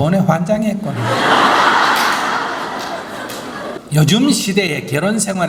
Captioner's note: audience Laughter